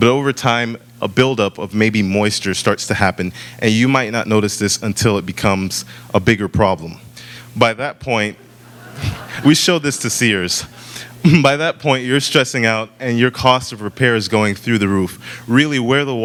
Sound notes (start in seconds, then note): 8.5 laughter